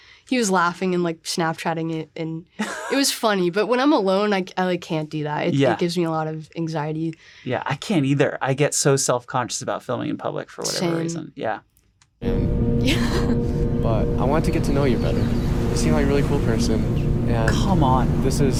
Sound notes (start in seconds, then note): 12.8 laughs